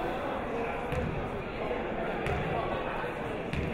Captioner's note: chattering